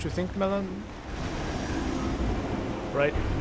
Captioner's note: golem snarls